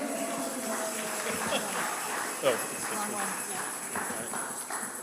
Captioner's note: congregant cheers; congregation applauding